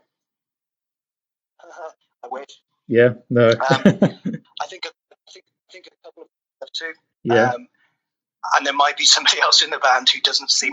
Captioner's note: laughs